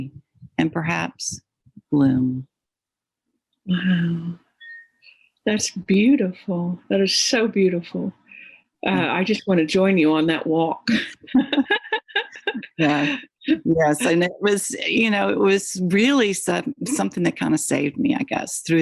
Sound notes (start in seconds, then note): 10.9 laughs